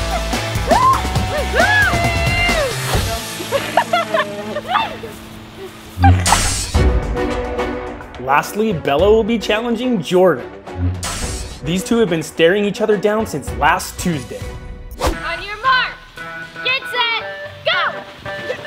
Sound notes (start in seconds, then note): 4.8 laughs; 7.3 dramatic music